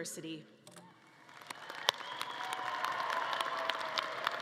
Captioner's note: audience clapping